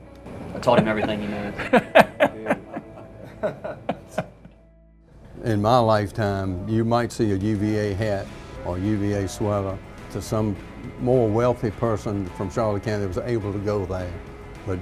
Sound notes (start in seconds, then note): 0.6 laughter